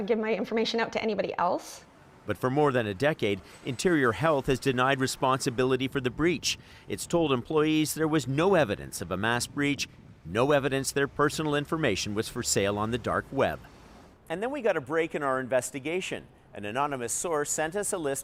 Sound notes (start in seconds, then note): none